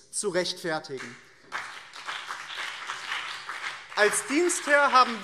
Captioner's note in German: Beifall BÜNDNIS 90/DIE GRÜNEN und CDU